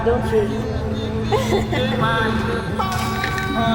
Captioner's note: laughing; soft music